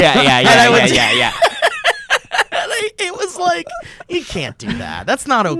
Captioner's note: laughing